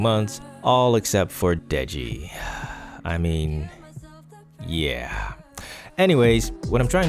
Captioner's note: sigh